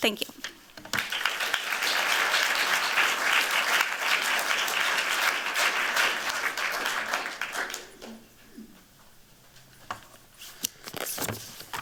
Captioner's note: applause